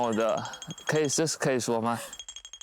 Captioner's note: nervous babbling